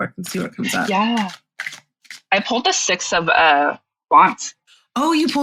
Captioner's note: shuffling